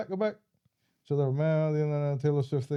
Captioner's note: speaking In Foreign Language